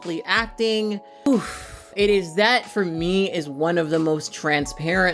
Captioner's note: exhales